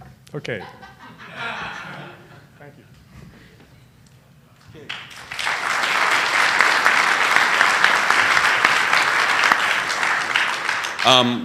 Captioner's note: laughter; appluase